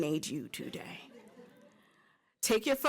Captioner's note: laughter